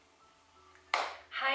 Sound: clap

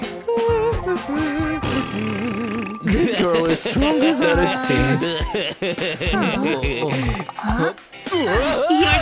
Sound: moaning

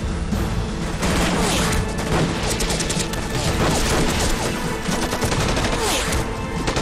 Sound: shooting

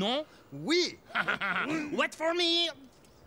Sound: both laughing

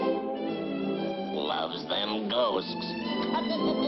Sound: laughs

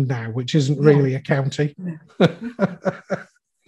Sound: laughs

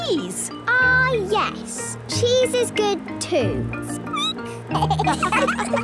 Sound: squeaking; laughter

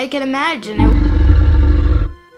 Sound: roaring

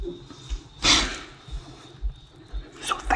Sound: inhales depply

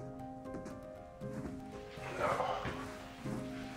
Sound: sighs

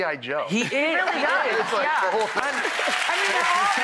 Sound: audience applauds

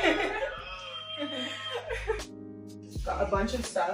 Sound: laughs; people on group chat cheering

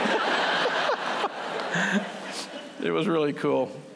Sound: laughter

